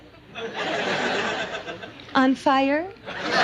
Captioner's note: audience laughs